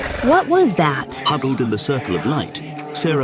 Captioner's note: SFX: Groaning, chanting, weird noises